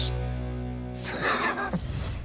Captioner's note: chuckling